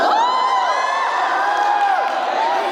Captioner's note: applause